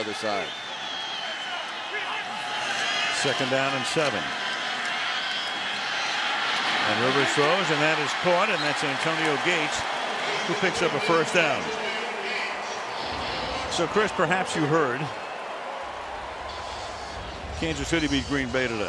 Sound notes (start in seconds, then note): 12.3 cheering